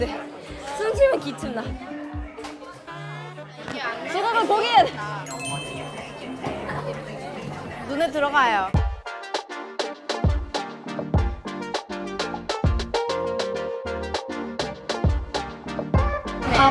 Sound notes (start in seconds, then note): 5.2 bell chiming; 8.7 upbeat music